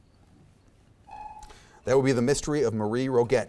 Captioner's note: timer buzzes